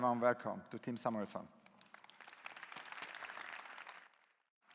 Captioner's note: claps